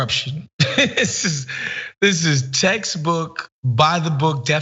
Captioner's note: laugh